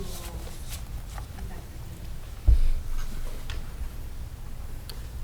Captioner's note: speaking off microphone